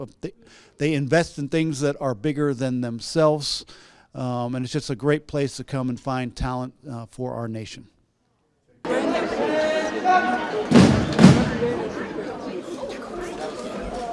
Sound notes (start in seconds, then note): 10.1 boots thumping